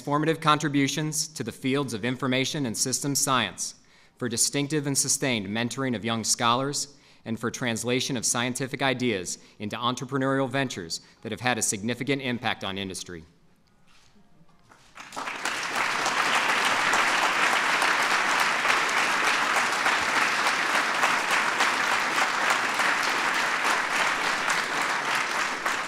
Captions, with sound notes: for transformative contributions to the fields of information and system science, for distinctive and sustained mentoring of young scholars, and for translation of scientific ideas into entrepreneurial ventures that have had a significant impact on industry. (Applause.)